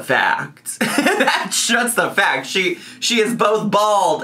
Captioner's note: laughs